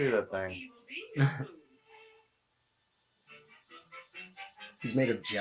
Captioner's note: Guy in the Suit laughs